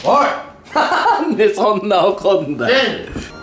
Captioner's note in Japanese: 笑いながら